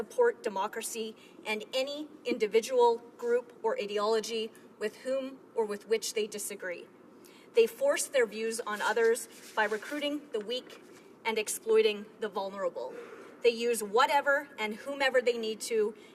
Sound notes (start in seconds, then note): none